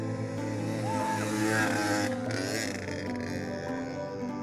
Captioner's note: audible good screaming